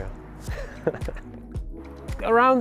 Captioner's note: laughter